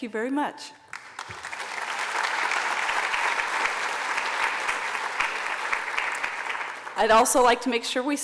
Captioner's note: applause